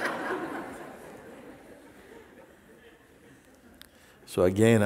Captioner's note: laughter